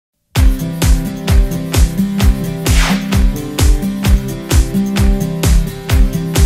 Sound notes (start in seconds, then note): 0.4 upbeat music playing; 2.6 swoosh